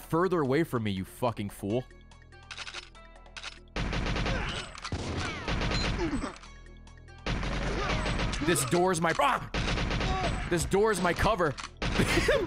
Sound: laughs

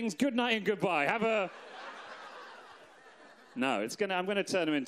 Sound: audience laughs

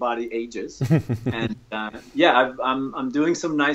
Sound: chuckles

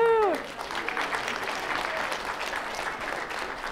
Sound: applause

